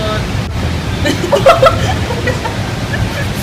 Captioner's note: laughs